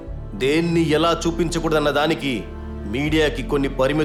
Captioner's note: none